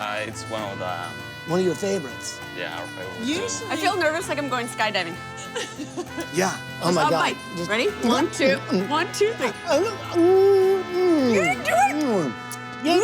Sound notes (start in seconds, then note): 5.3 laughs; 9.3 makes eating noises